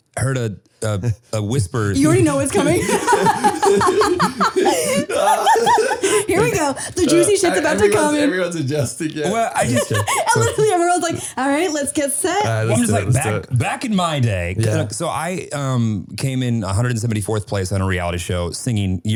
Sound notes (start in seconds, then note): 1.9 laughing; 10.0 laughing